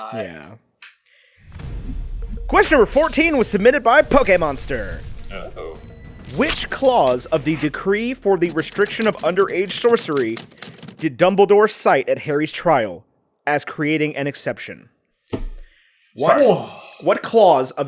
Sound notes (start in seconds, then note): 15.9 deep whuh of an exhale